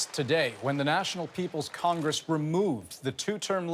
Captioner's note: applause